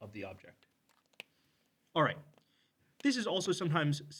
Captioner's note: marker cap clicks